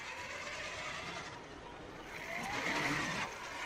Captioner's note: engine rumbling